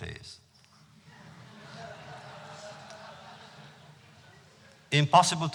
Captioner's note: laughter